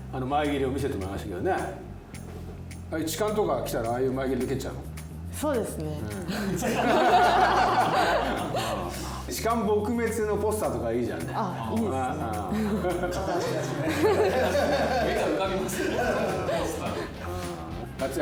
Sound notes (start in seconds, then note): 6.2 laughs